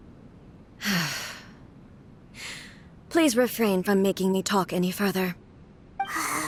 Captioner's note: sigh